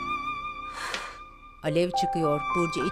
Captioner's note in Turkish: Nefes sesi